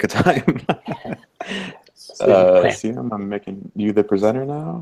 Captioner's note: laughs